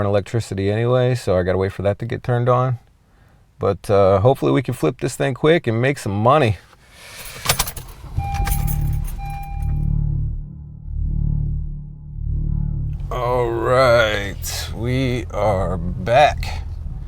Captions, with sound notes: and electricity anyway. So I gotta wait for that to get turned on. But hopefully we can flip this thing quick and make some money. (car beeps) All right, we are back.